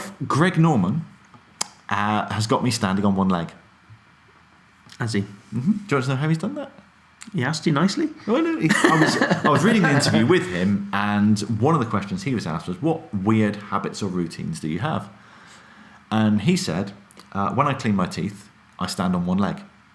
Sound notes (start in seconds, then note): 8.6 laughs